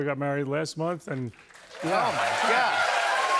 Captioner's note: cheers and applause